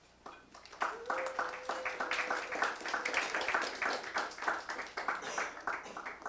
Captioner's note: audience applauding and cheering